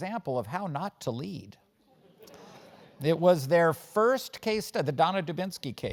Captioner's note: laugh